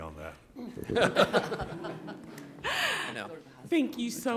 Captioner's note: all laughing